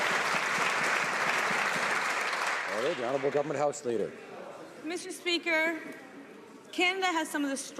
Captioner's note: some Applause